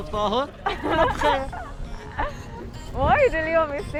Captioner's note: laughs